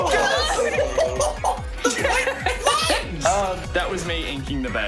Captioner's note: all exclaim; laughs